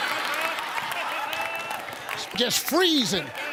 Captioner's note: audience laughs